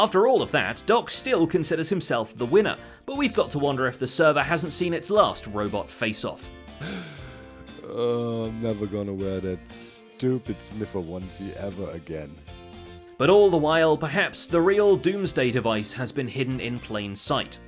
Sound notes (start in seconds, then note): 6.7 sighs